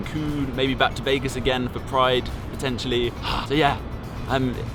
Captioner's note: exhales